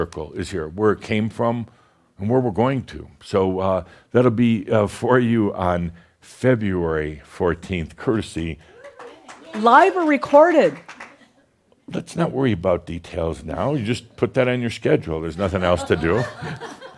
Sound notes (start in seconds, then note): 8.6 some applause